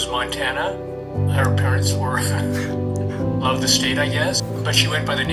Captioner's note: chuckles